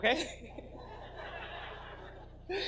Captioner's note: audience laughs